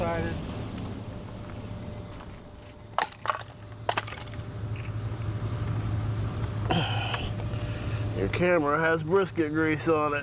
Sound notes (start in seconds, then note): 3.0 wood clunks together; 6.6 sighs